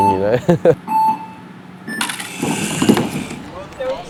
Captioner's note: countdown beeps